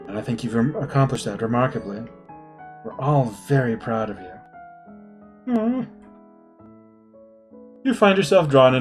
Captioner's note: none